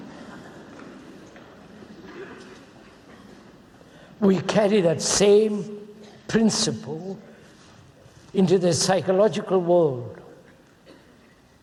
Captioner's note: laughter